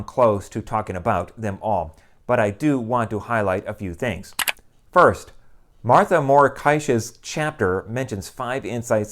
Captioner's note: mouse click